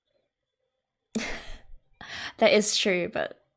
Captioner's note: laughs